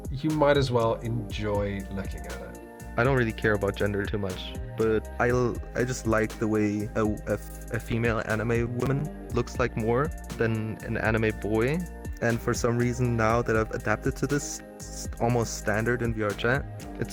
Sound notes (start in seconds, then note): none